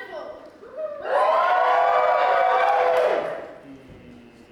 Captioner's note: audience whoop